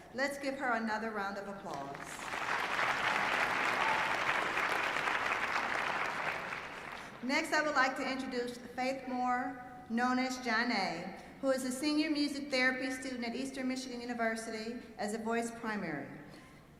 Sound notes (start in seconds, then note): 1.6 applause